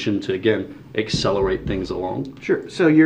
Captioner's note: board booming